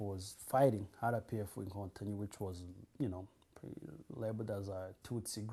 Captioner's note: non-english